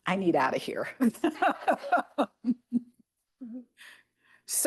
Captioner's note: laughter